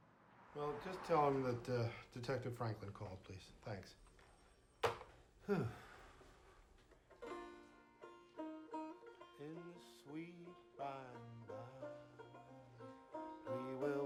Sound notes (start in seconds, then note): 5.4 sighs